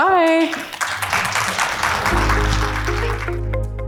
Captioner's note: audience applauds; soft upbeat music